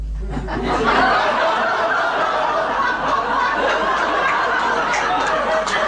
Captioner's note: everybody laughs